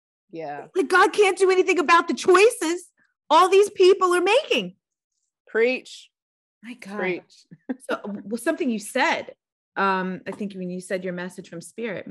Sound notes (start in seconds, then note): 7.5 chuckling